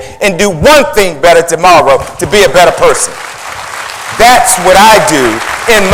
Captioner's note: applause